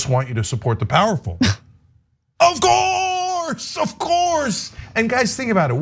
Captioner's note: laugh